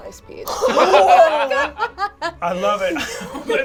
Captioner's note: laughing; all laugh